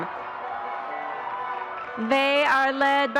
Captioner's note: audience cheering